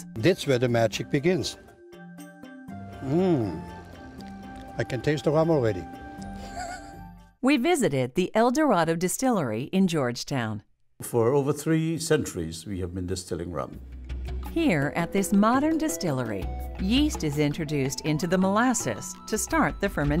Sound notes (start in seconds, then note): 6.3 laughs